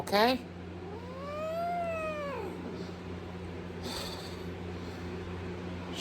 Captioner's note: Caprice yowls louder